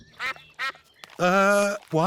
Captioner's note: sucks quacking